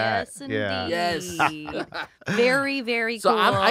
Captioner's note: they laugh